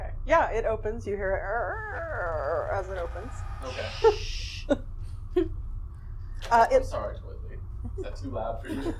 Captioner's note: door creaking sound